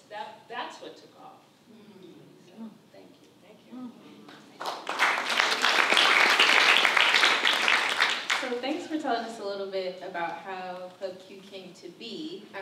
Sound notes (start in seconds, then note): 4.5 applause